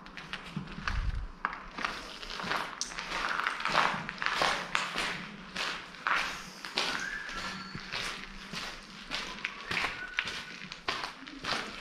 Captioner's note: listen to someone's whistling